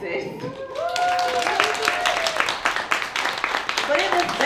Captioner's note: audience cheers and applauds